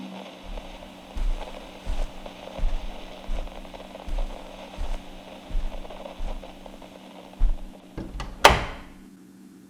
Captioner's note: walks away and door closes fx